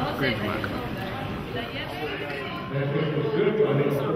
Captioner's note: audience member murmurs